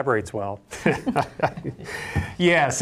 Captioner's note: laughs